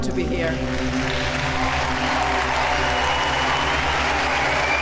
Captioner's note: audience applauding